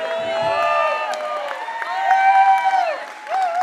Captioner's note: applause; cheering